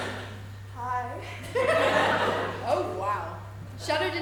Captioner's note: audience laughs